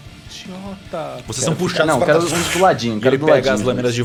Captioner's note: chain sounds